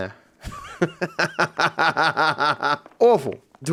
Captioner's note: laughs